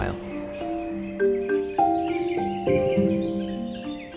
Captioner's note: birds singing